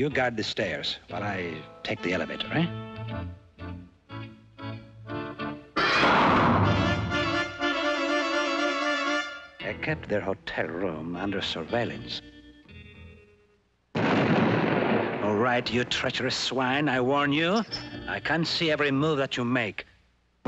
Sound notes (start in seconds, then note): 5.6 crashes; 13.9 explosion